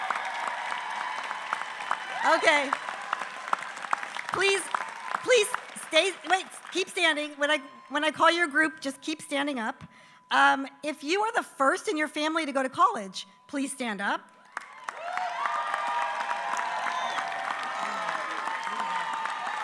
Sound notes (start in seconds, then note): 0.0 applause; 17.6 applause